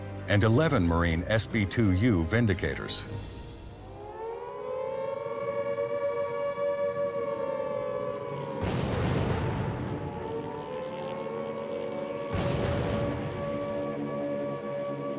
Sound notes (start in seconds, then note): 3.5 air raid siren blaring; 9.0 planes flying